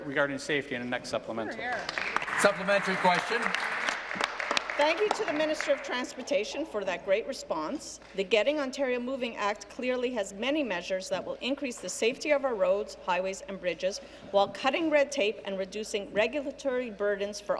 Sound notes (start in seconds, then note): 6.4 applause